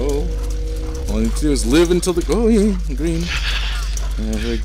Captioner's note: laughs